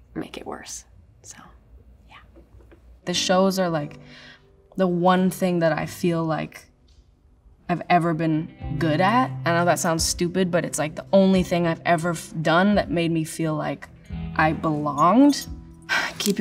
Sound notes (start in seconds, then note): none